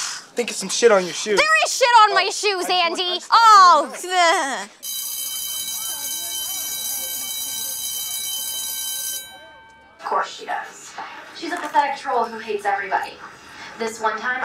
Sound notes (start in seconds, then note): 4.8 bell ringing; 4.9 groans